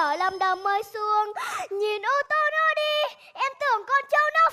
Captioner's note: gasp